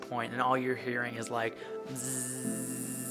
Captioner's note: buzzes